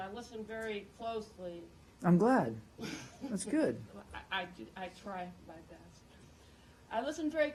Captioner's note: laughter